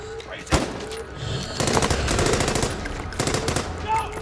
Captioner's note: gunshots blasting